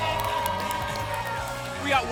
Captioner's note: applause and cheering